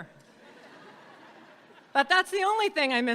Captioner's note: audience laughing